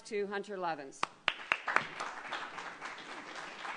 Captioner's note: applause